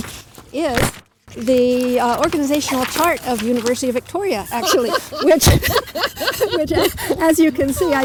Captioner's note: laughter